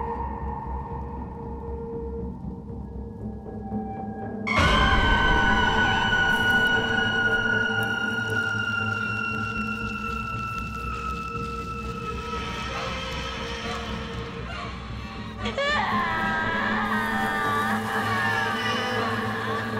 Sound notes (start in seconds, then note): 2.3 tense eerie music; 4.8 banshee shrieks; 12.7 rain falling; 16.1 banshee screaming